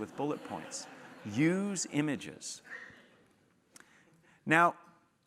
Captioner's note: laugh